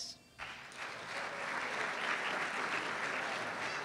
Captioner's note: applause